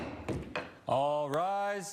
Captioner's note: loud bang